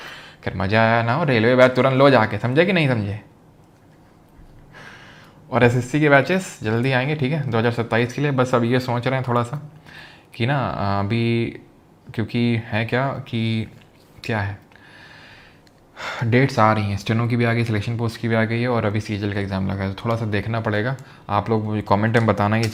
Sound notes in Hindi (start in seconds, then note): 14.8 गहरी सांस लेने की आवाज़; 14.8 अचानक ज़ोर से सांस लेने की आवाज़